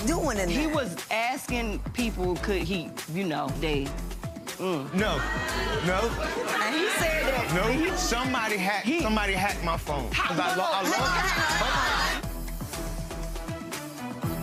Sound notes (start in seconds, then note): 4.8 laughing; 10.7 shouting